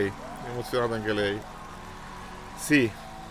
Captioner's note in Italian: Applauso